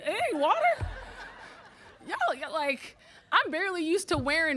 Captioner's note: audience laughing